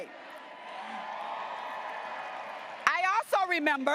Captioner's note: graduates applauding and cheering